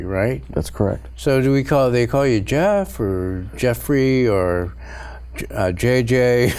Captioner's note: laughs